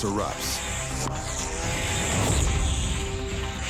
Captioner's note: weed wacker whirring